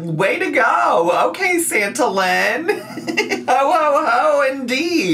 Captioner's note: laughs